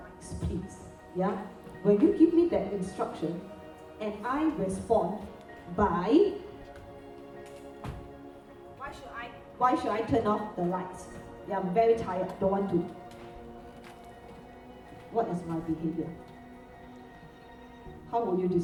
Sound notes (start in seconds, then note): 7.1 stamps foot